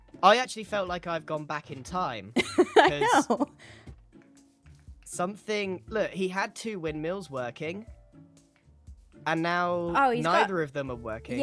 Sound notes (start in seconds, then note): 2.4 laughs